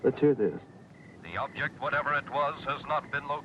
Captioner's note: radio Announcer